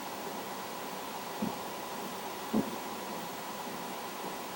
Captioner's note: faint footsteps